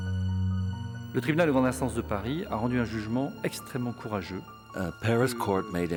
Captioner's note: speaks in foreign language